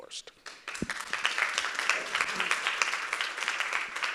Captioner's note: audience applauding